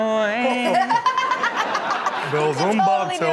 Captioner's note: explosive laughter